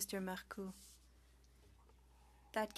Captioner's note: speaking French